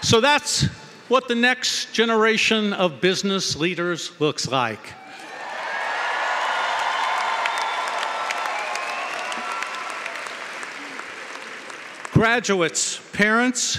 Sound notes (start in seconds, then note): 6.6 cheering & Applause